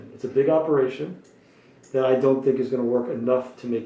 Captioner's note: none